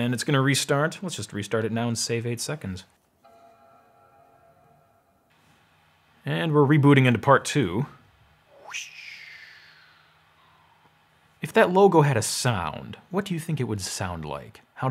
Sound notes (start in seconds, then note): 3.2 computer chimes; 8.5 whooshes